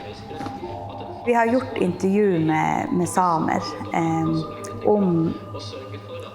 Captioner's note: speaking in Norwegian language